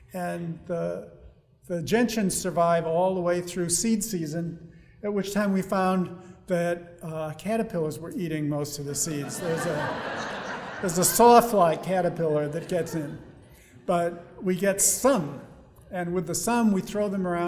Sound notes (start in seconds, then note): 9.0 audience laughing